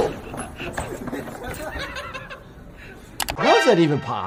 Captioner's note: off camera laughing